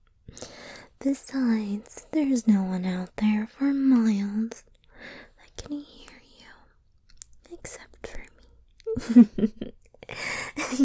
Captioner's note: laughs